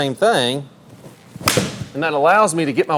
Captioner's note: whacking sound